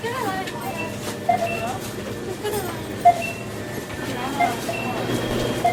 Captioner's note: checkout beeping